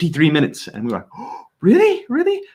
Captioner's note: gasps